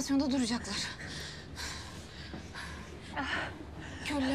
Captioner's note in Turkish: Nefes sesi